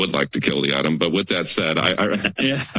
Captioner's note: laugh